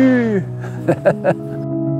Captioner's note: laughs